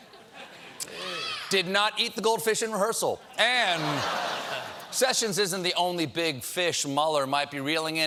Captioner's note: laughter